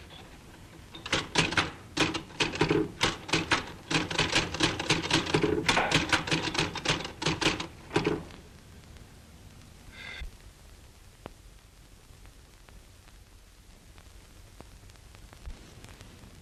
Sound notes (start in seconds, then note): 0.8 typewriter keys clacking; 10.1 sighs